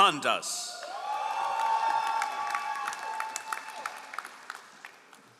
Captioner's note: all applauding